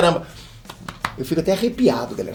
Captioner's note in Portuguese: bate no peito